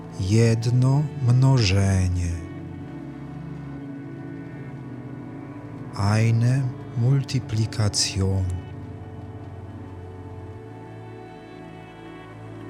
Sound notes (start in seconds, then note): 8.0 german